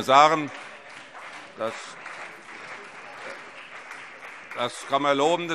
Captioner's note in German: Allgemeiner Beifall